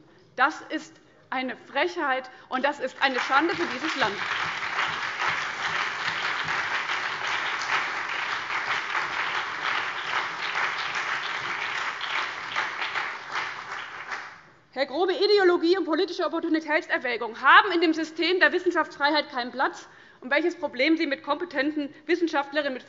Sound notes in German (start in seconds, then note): 5.4 Beifall CDU, BÜNDNIS 90/DIE GRÜNEN, SPD und vereinzelt DIE LINKE